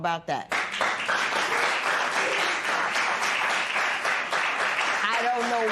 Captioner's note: applause